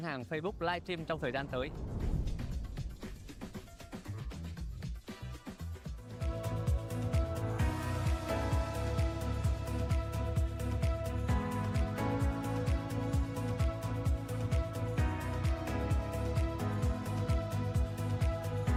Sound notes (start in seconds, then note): 5.2 speaking another language